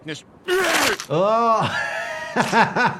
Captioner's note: Peter barfs; doctor laughs